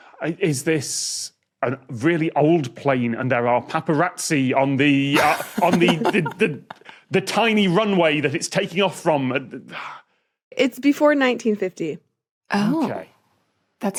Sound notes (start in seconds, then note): 5.1 guests giggling